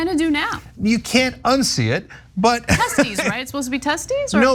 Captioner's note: laugh